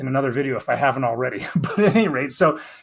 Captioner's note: laughs